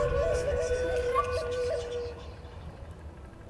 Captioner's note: whispered Celtic voices